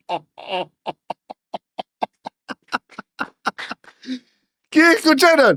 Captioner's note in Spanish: risas